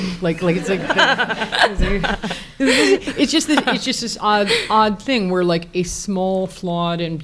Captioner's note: audience laughs